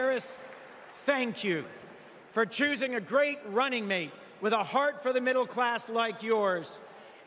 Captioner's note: applause